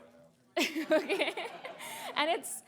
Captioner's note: laughter